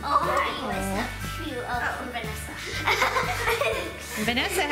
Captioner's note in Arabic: يضحك